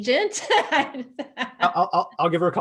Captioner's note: laughs